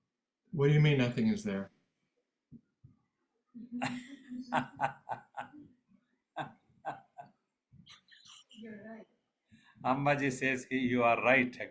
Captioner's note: laughs